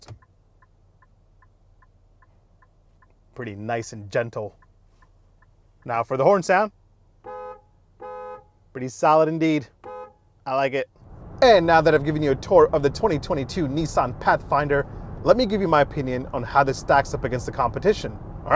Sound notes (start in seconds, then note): 1.4 indicator ticks; 7.2 car horn beeps; 9.7 car horn beeps